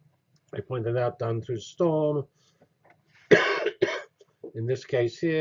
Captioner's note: cough